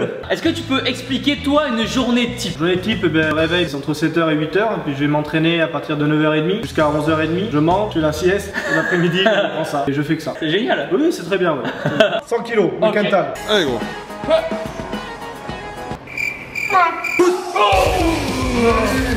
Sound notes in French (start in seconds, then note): 8.5 rire; 11.6 rire; 16.0 coups de sifflet